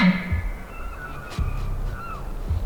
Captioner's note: elk bugling